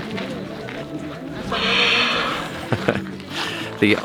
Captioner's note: jaguar noises